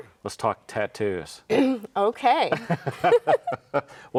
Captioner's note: both laughing